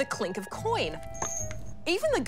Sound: coins clink

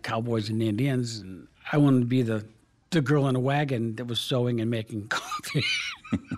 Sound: laughs

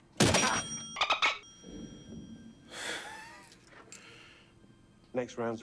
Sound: laugh

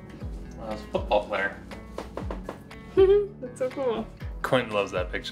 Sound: giggle

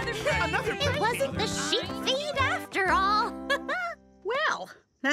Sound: chuckles

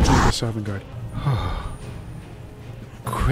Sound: sighs

